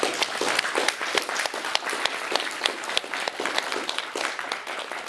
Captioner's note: تصفيق